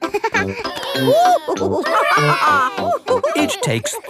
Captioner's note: giggles; madam gazelle laughing; children straining